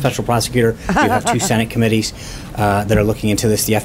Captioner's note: laughs